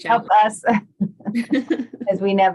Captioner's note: laughs